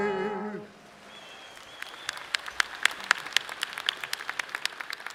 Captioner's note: audience applauding